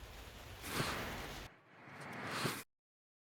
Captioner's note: swish